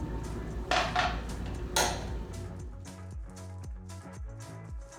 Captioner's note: clanking